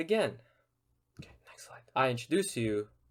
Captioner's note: whispers